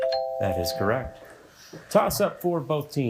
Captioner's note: bell ringing